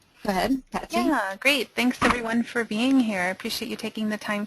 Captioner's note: voiceover